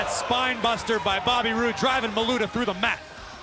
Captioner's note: crowd chatter